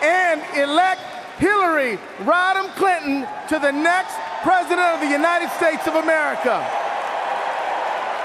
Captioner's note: cheers and Applause